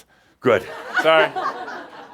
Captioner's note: more chuckles